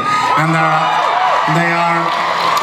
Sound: audience cheers

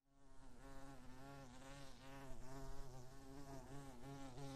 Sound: bee buzzes

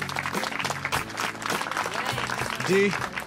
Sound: group clapping

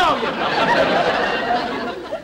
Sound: audience Laughing

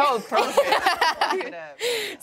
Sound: laughter

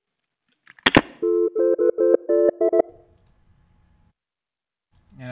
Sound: phone rings

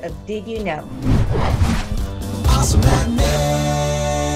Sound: whooshing

